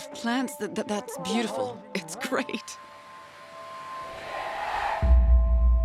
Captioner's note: laughs